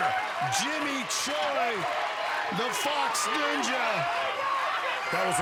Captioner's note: cheering